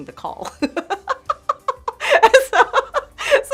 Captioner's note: laughing